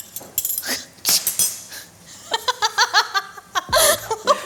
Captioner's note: women laughing